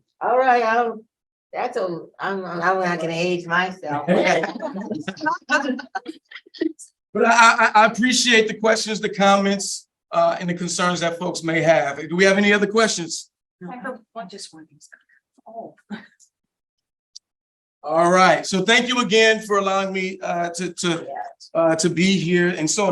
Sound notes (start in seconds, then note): 4.0 laughing